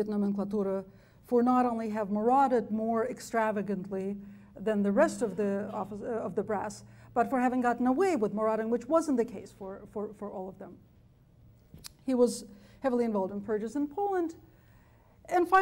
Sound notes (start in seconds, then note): none